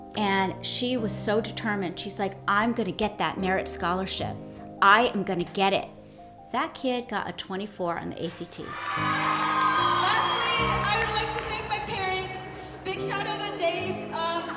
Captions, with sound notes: And she was so determined. She's like, I'm gonna get that merit scholarship. I am gonna get it! That kid got a 24 on the ACT. (audience cheering) - Lastly, I would like to thank my parents. Big shout out on Dave.